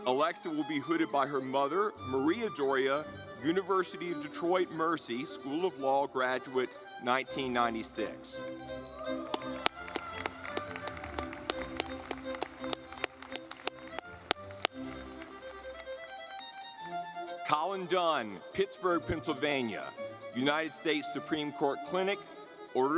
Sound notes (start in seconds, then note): 8.5 audience clapping; 8.5 lively music